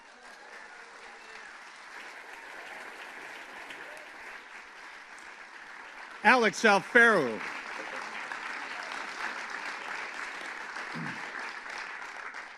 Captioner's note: applause; applause